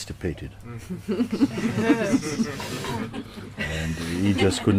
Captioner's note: laughter